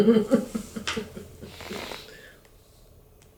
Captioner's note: chuckling